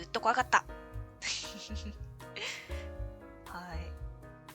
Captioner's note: laughs